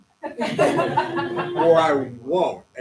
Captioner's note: laughter